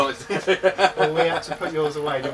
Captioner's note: laughing